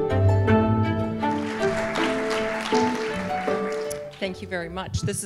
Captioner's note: applause